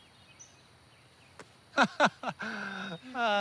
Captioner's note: laughs